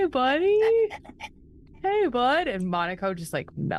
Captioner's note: Omega imitates dog pants